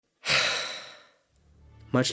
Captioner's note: sighs